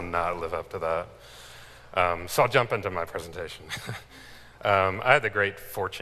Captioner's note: chuckles